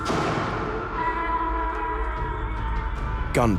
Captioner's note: hollering